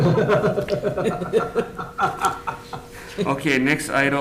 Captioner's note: laughs